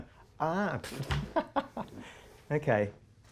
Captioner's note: laughs